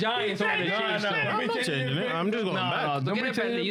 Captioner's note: speaking In Foreign Language